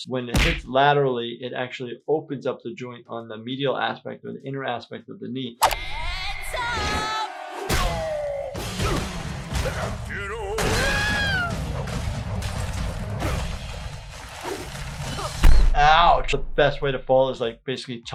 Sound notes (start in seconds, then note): 6.8 Captain Grime groaning; 8.8 Grime crashing, grunting; 10.1 screams; 12.0 Captain Grime crashing, Sprig grunting